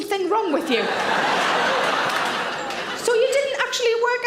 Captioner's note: audience laughing